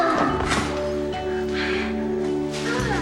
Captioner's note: sighs